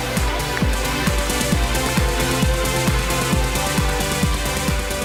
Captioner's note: cheers and applause